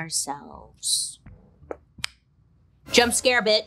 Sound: Bailey popping lips

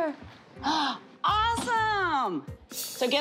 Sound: gasps

